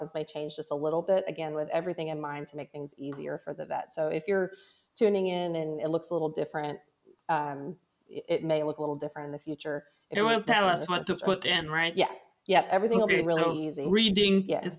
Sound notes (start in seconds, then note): 10.4 faintly speaks